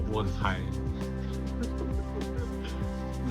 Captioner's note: the big brother continues to giggle